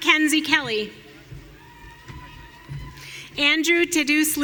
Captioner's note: audience cheering